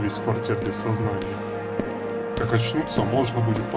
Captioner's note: sounds of approaching footsteps